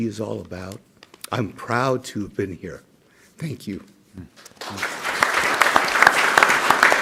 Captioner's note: clapping